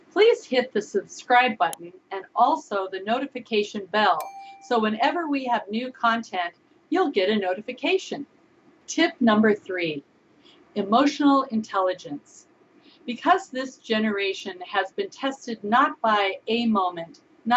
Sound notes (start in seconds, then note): 4.2 bell ringing